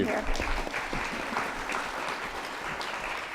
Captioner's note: applause